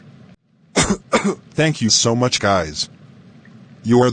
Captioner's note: coughs